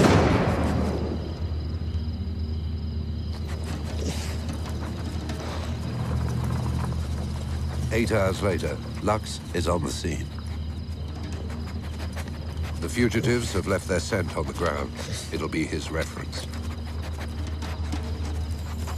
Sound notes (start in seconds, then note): 0.0 gun firing; 3.8 dog sniffing